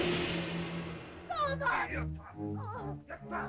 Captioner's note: suspenseful music; Akhoba grunts; Akhoba speaks angrily in caveman language